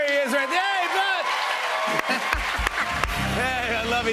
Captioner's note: cheers and applause